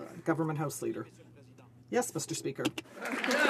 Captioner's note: some Applause